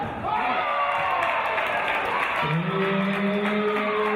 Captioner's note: cheers and applause